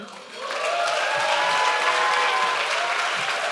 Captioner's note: clapping